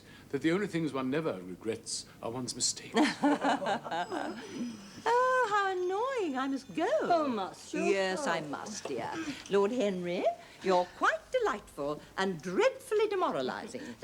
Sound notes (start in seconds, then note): 2.9 laughter; 3.1 bell rings